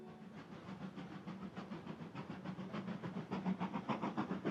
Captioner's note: train chugging